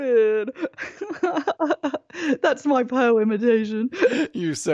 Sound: laughs

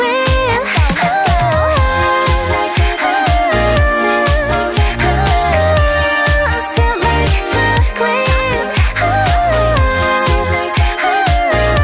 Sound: ohhhh

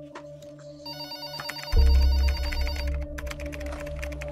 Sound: phone ringing

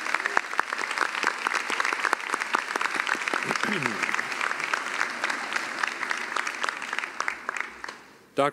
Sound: applause

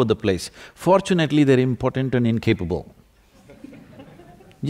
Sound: laughter

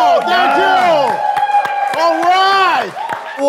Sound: everyone cheering

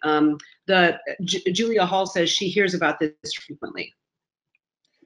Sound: voice muffled

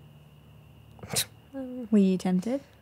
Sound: scoffs

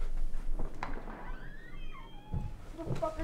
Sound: downstairs door opens

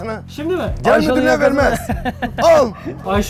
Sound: laughs

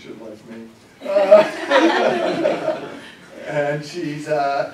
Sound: laughter

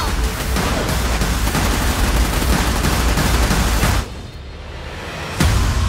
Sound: gunfire

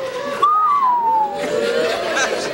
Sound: whistles

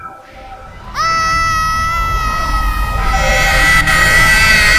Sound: screaming

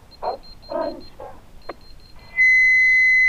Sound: on the radio

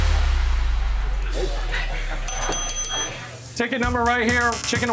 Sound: background talking; bell dinging

